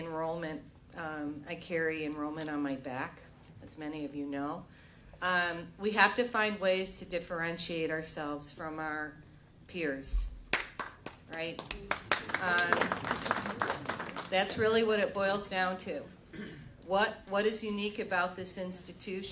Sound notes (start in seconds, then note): 14.7 applause